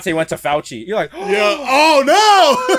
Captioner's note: gasps; laughs